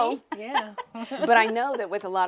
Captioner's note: laughs